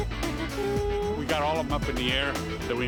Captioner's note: <i> hums fanfare</i>